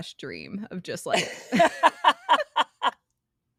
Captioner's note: both Laughing